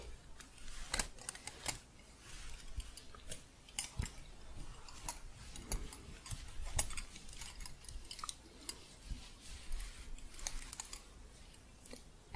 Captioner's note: gentle jingling